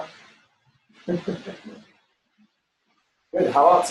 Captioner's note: laughter